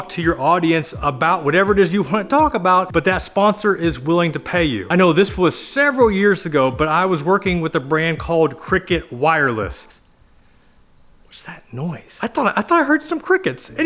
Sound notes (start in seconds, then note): 10.0 crickets chirp